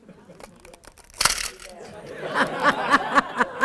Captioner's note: plastic clanking; camera winder clicking; audience laughing; laughing